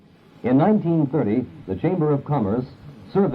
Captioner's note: voiceover